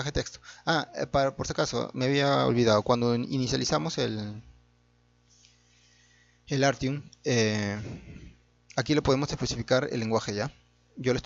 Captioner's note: Spanish